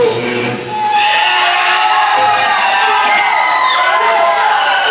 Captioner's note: applause